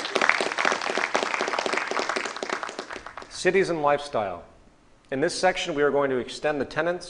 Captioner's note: applause